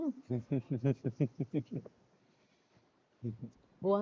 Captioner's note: speakers giggling